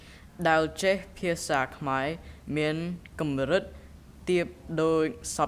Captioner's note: speaking in a foreign language